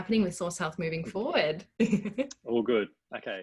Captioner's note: laughing